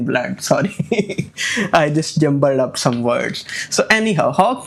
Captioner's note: laughs